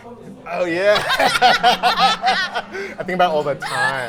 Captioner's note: both laughing